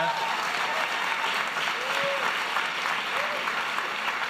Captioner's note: applause